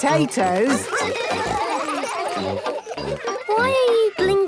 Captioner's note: children giggling